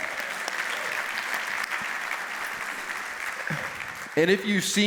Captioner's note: applause